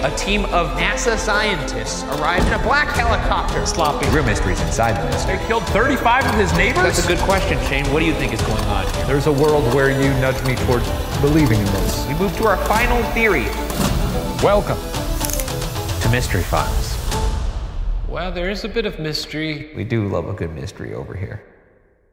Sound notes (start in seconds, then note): 13.4 intense music; 14.8 projector clicking; 15.0 pointer clicks; 17.1 drum bangs